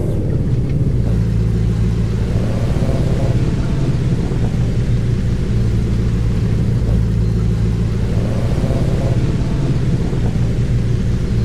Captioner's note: accelerates